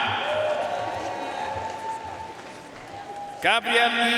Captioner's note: audience cheering and applauding